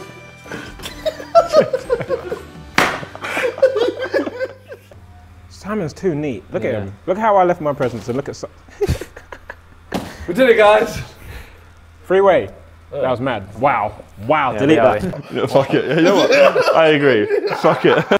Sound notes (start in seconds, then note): 0.4 both laughing; 2.7 whacking; 8.7 laughs